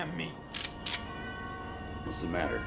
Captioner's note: gun clicking